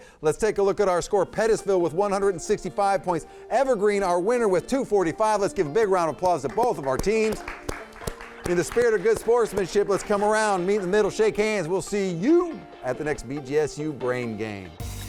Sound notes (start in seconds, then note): 6.3 audience applauding